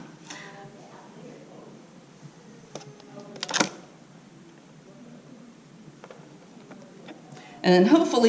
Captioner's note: pause